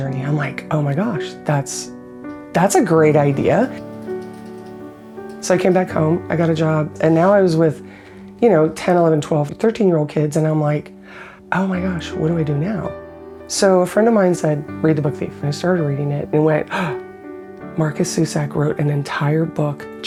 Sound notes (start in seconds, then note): 16.7 gasp